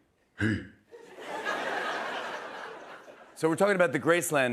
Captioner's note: laughter